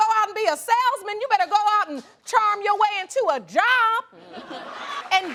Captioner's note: all laughing